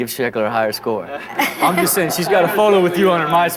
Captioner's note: laughing